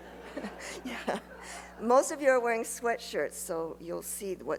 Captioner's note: laughs; laughter